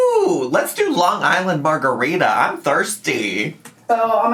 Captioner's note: none